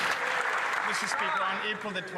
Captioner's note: some Applause